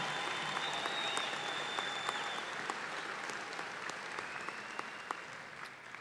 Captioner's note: applause